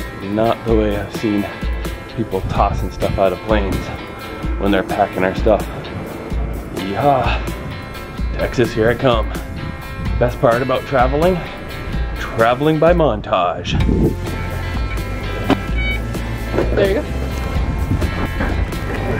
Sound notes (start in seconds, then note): 13.6 upbeat music; 15.4 beeping